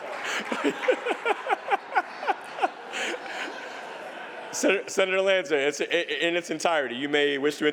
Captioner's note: laughter